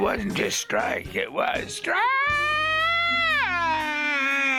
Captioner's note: laughs